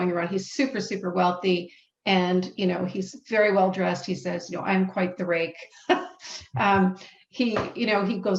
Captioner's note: laughs